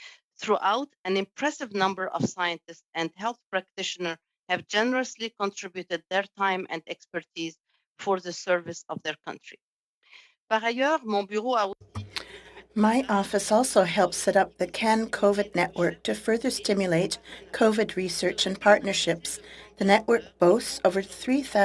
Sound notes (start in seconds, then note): 15.3 speaking French